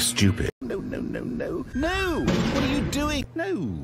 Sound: crash

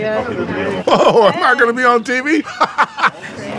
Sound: laughter

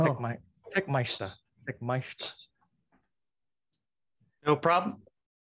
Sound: testing mic

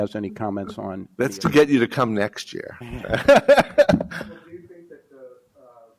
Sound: laughs

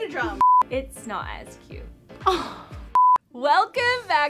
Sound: scoffs

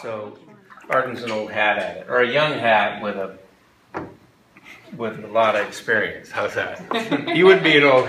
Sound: laughter

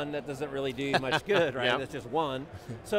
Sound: laughing

